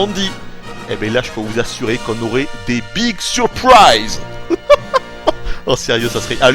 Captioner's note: laughs